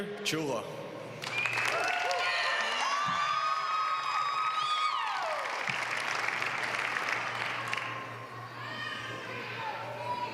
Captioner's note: applause